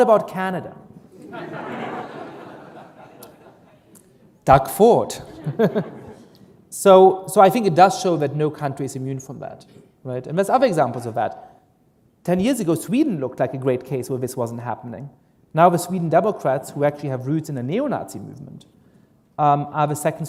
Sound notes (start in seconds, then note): 2.8 laughter; 5.3 chuckle